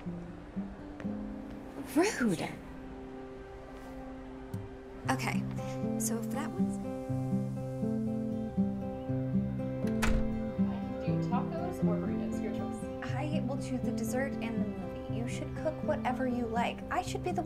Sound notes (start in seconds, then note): 6.9 soft music; 9.8 door opening